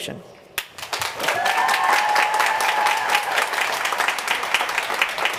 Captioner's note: crowd cheering